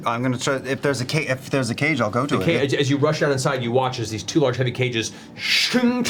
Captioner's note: none